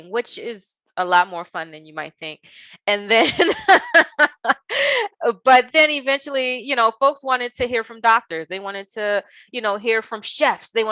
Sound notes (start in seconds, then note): 3.1 laughing